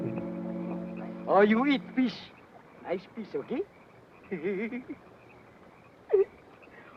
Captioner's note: laughs